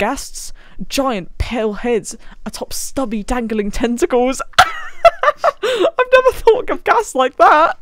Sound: laughs

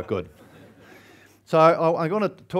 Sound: audience laughs

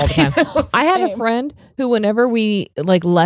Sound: laughing

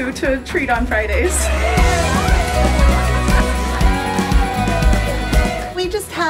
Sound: cheering loudly

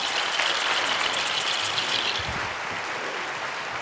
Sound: applauds

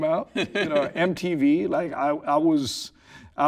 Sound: laughing

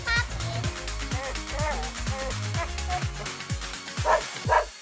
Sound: dog whining; dog barking

